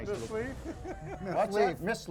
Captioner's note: laughs